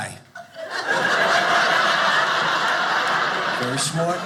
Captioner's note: audience laughing